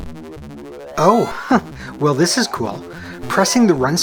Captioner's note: chuckles